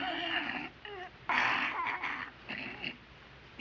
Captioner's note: gasping